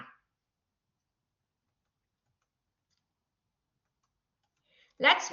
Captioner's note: silence